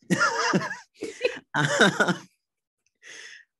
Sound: both laugh

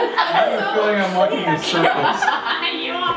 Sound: laughs

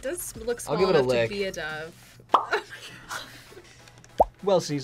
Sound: laughs

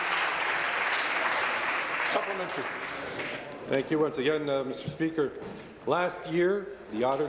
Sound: applause

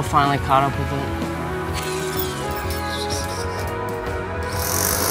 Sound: machine buzzes

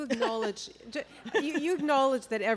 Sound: chuckle

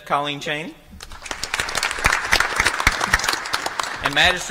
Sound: applause

